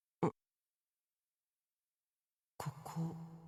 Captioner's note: silence